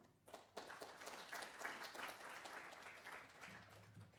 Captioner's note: applause